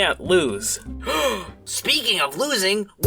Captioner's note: gasp